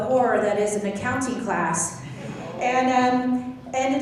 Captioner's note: laughing